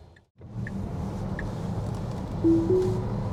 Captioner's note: car engine